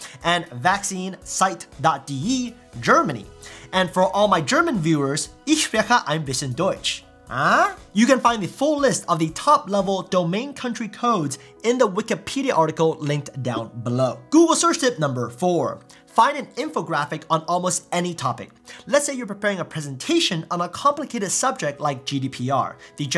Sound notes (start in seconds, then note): 5.5 speaks German